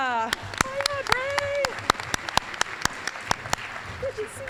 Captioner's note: applause